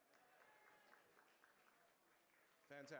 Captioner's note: applause